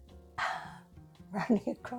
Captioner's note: exhales